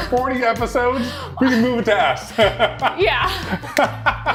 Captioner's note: laughs